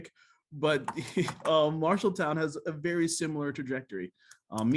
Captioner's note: laughter